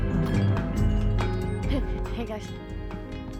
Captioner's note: bells jingle